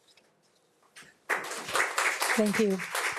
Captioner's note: audience claps